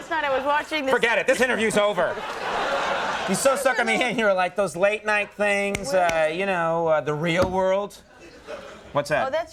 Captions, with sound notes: Forget it. This interview is over (Public laugh) you so stuck on me and you like those late night things, you know, the real world. What's that?